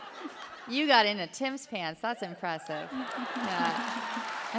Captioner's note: applause